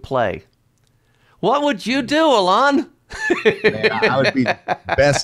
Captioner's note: laughs